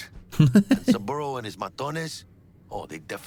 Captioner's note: laughs